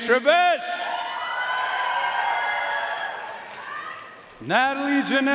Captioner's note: audience cheering and applauding